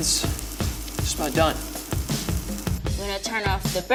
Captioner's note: skillet sizzling; upbeat music